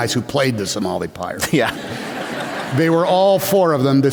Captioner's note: laughter